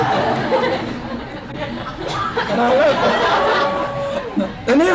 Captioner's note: laughter